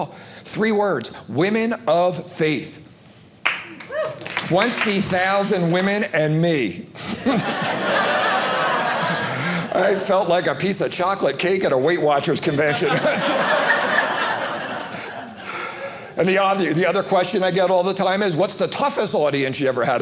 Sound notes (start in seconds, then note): 7.0 audience laughing; 12.5 audience laughing